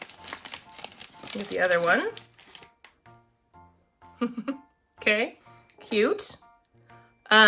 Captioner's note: laughs